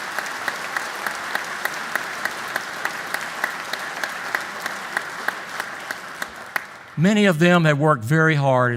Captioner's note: applause